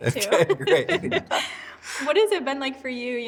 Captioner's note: all laughing